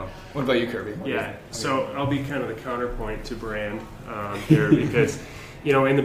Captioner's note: laughter